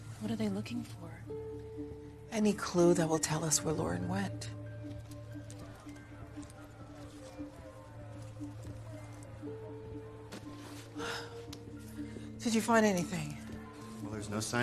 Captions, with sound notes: What are they looking for? Any clue that will tell u us where Lauren went. [sighs] Did you find anythinthing? Well, there's no signs of forced entry.